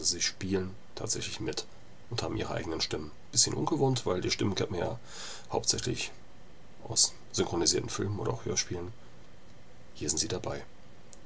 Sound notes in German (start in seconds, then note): 6.7 German